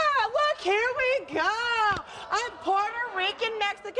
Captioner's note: audience groaning and talking